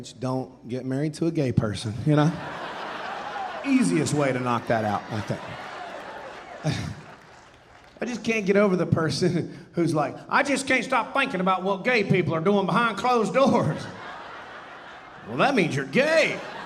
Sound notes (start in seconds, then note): 2.2 audience laughing; 13.5 audience laughing